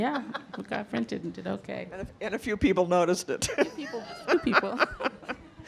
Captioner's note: laughing